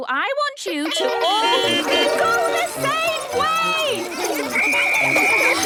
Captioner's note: beeping; whistle blowing